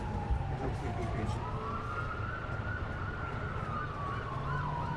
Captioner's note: police sirens